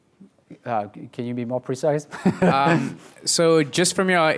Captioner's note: laughs